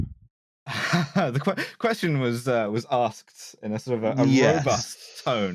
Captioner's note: laughs